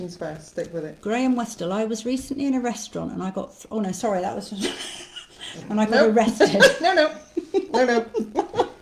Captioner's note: laughter